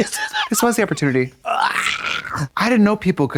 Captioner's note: Katya howls